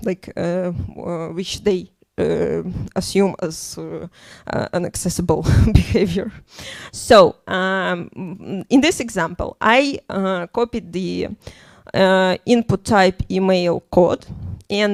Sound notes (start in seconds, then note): none